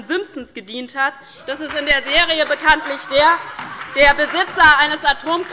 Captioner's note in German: Heiterkeit und Beifall bei der LINKEN und der SPD